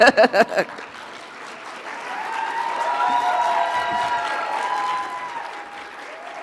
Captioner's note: audience applauding; audience cheering